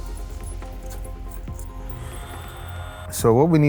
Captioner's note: machine whirs